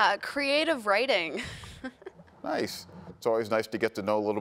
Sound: chuckles

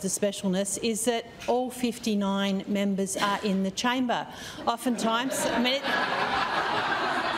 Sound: laughter

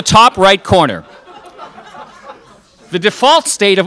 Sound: crowd laughs

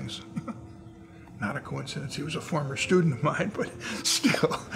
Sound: laughs

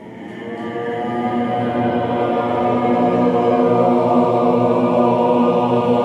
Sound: voices resonating continues

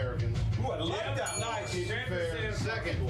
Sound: bell rings

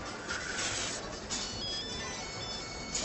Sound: cellphone ringing

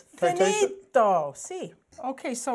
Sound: speaking Italian

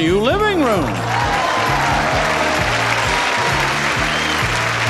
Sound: audience applauds

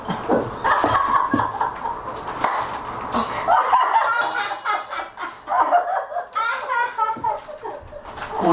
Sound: laughing

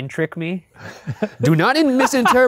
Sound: laughing

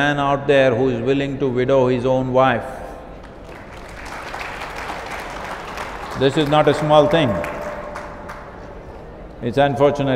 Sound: applause

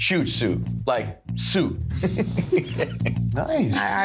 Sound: laughing

